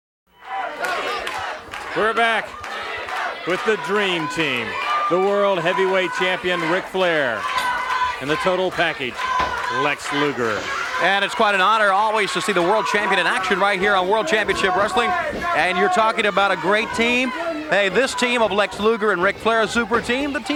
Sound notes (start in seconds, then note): 0.6 audience chattering